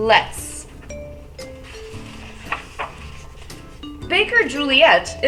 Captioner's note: page turning